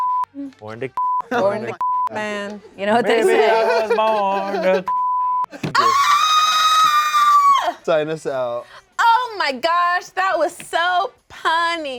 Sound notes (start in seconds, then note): 1.6 beep; 3.2 laughs; 4.8 beep; 6.1 yells